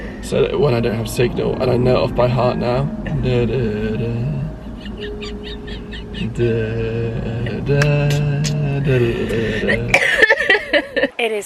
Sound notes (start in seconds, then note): 3.2 hums along to music; 4.6 laughs; 9.0 coughs